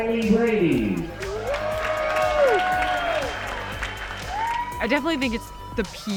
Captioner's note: audience applauds and cheers